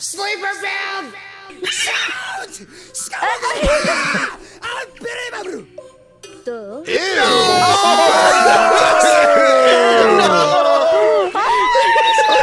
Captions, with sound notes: - Sleeper build! (speaking in foreign language) - Ew! (all groaning and laughing)